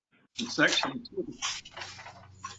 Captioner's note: chuckles